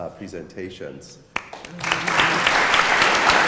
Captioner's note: applause